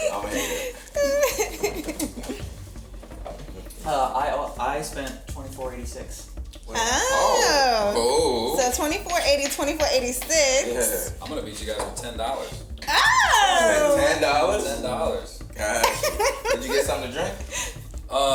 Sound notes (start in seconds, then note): 0.0 giggles; 6.8 group exclaims excitedly